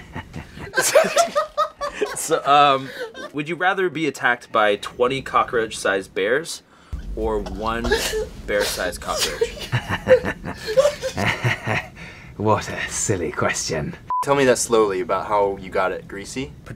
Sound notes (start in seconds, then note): 0.0 laughter; 9.2 devilish chuckling